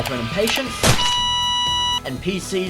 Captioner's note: flatline sound effect